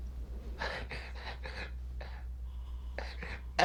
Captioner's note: snickers